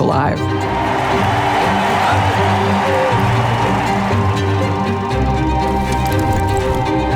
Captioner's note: upbeat background music; audience cheering